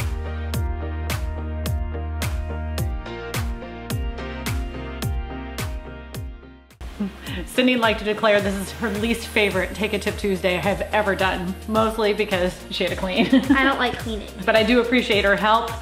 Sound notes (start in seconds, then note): 13.2 laughs